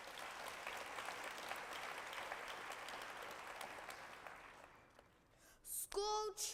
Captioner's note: applause